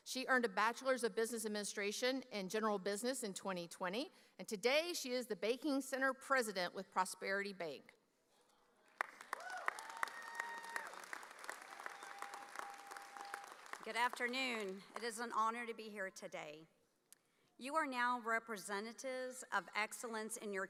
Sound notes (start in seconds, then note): 9.3 audience cheering